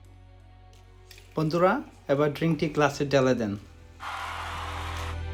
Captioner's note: crowd cheers